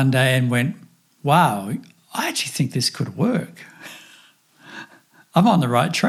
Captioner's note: chuckles